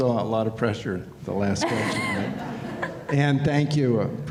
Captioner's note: laughter